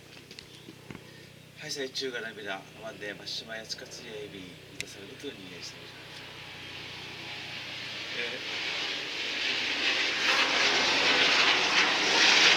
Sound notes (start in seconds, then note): 6.3 the roar of a U.S. military fighter jet